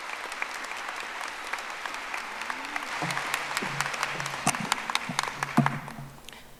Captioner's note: audience applauding